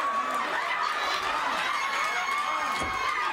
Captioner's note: crowd laughs